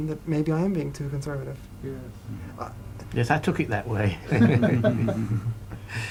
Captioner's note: laughter